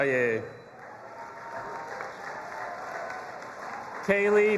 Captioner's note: audience applauding and cheering